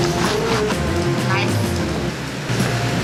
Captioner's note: knife cuts